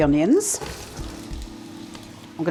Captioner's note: sizzle